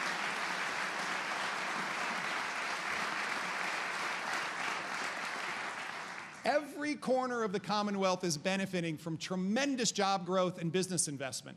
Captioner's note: applause